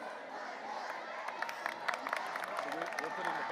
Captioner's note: audience applauding; faintly speaking